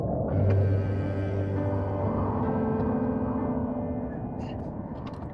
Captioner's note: gentle music; Asher groaning